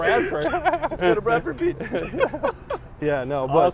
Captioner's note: laughs